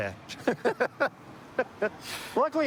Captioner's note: laughter